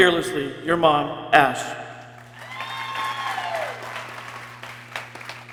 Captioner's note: people cheering